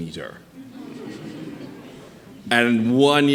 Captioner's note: audience chuckling